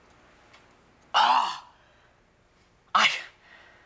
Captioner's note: exclaiming